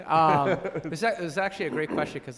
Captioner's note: laughs